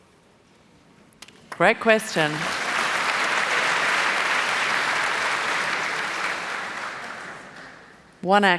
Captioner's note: applause